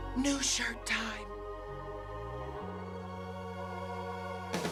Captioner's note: gasps